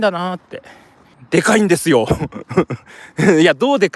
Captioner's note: laughs